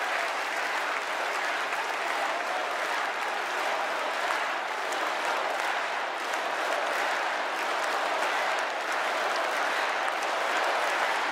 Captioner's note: cheers and applause